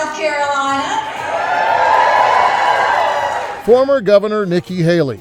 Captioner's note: supporters clapping and cheering